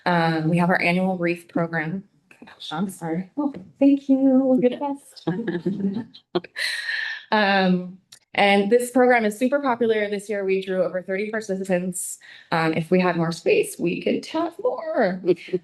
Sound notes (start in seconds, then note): 5.4 all laughing